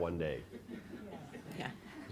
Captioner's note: laughter